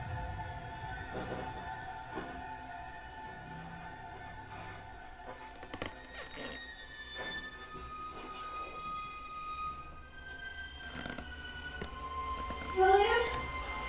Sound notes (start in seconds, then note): 0.5 TV sounds; 5.6 floorboards creaking